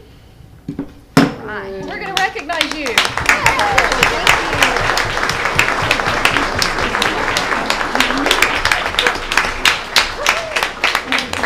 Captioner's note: applause